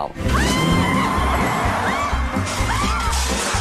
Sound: screaming

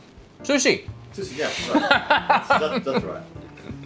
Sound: laughs

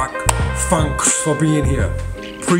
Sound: claps

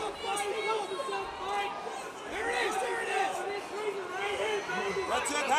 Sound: trainers shouting

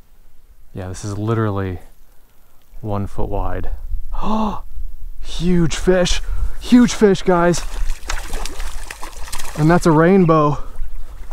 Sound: gasp

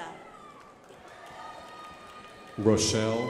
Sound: crowd applauding

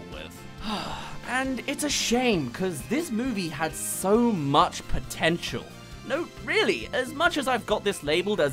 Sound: sigh

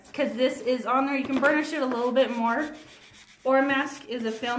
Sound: brushing

